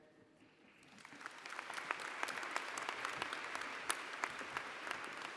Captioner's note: applause